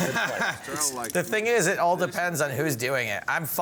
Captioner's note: laughing